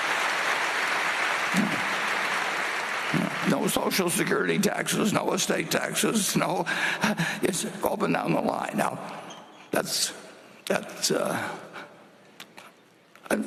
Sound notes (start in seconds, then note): 5.2 applause